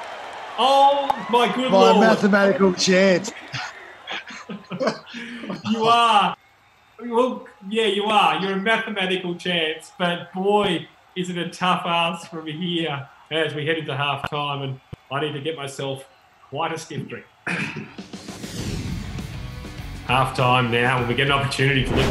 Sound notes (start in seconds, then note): 7.0 laughing; 7.8 crowd cheering; 15.6 laughing